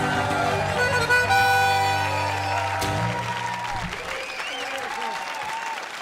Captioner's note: audience applauding and cheering